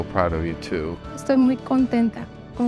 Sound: in Spanish

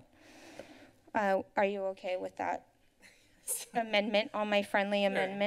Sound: laughs

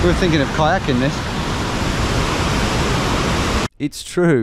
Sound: waterfall crashing

